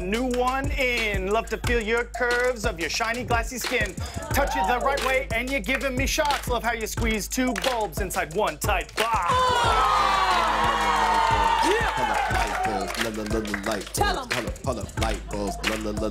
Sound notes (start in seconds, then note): 9.0 cheers and applause; 9.5 audience "Ohs"; 15.3 laughter